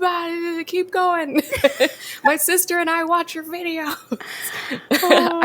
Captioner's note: both laugh